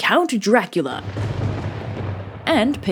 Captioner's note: thunder